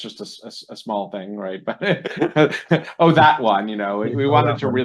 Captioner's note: laughs